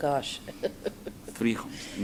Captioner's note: laughs